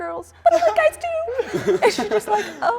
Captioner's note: group laughing